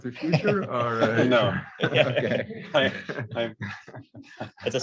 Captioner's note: laughs